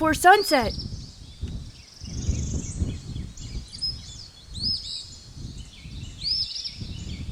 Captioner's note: birds chirping; wind rustling